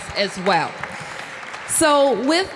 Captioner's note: applause